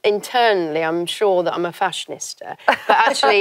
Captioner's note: laugh